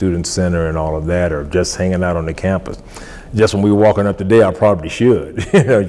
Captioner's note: laughs